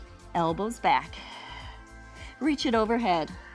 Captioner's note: exhales